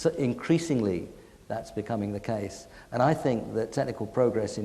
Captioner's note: none